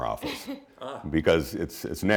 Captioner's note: laughs